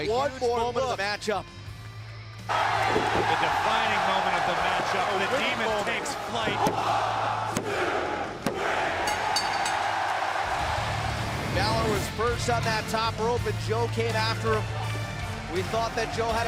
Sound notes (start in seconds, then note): 9.0 bell ringing